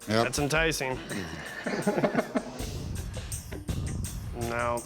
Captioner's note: laughing